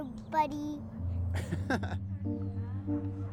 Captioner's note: laughs